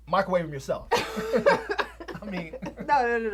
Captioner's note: Terra chuckles